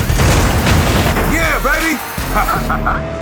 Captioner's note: laughs